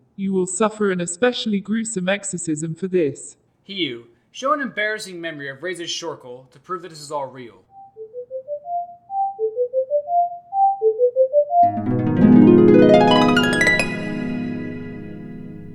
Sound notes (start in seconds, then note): 7.7 beeping; 11.6 harp